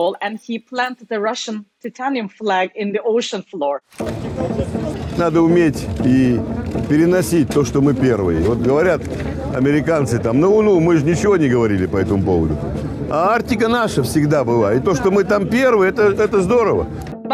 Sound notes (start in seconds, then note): 5.3 speaking in foreign language